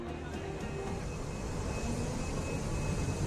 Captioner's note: crowd chatter